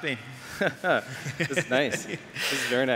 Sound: chuckles

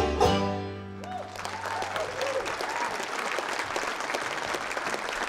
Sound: audience applauding

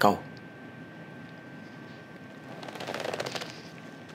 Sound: paper rustling

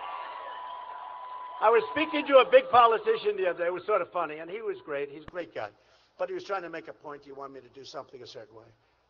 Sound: applause

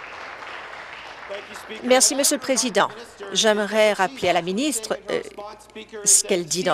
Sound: applause

